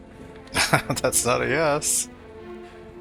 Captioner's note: laughing